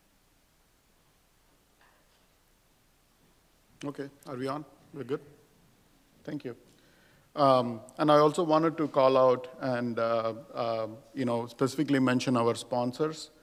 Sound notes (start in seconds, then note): none